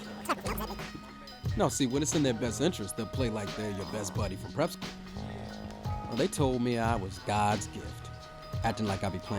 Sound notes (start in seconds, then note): 1.2 voiceover